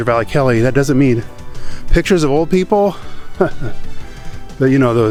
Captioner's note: chuckles